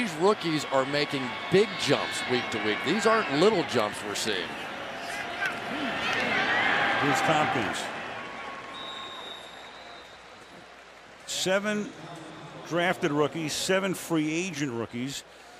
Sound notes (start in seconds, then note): 8.7 whistle